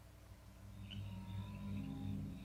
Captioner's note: suspenseful music; frogs croak and crickets chirp